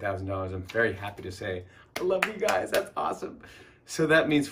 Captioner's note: clapping